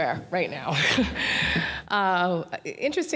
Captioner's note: laughter